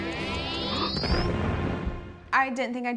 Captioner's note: dramatic music; bomb explodes